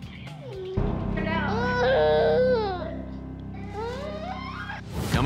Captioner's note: crying